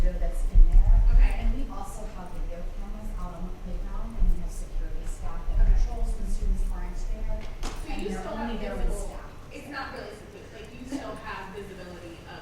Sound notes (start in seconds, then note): 7.9 murmurs